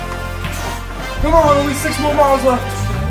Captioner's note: none